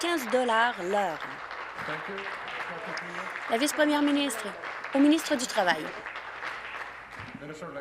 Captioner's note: applause